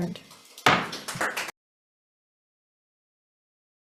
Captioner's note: striking gavel